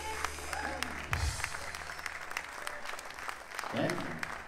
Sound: audience clapping

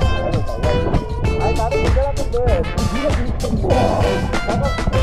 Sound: laughing

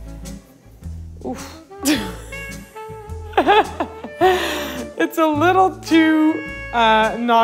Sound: laughs

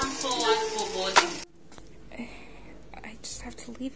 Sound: confused sigh

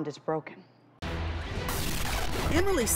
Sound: TV static

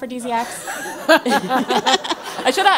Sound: laugh

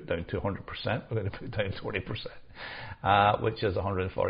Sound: chuckles

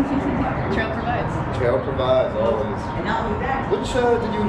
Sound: laughing

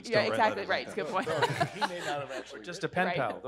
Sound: laughs

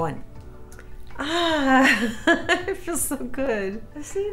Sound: laughs

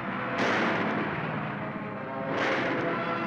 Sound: gun firing

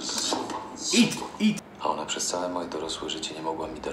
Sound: foreign language

